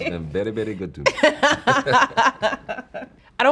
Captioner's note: laughing